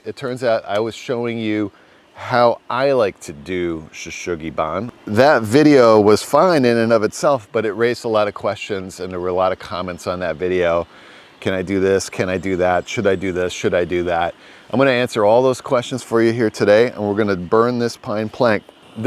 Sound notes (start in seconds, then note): 4.1 speaks in foreign language